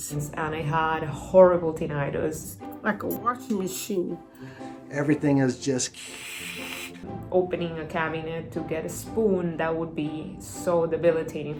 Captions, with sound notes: and I had horrible tinnitus, like a washing machine. Everything is just (makes static sound). Opening a cabinet to get a spoon, that would be so debilitating.